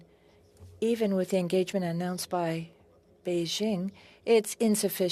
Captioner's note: speaking French